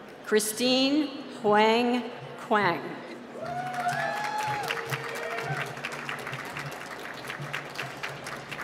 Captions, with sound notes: Christine Huang Quang. (cheering and applause)